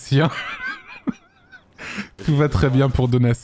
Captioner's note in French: il rit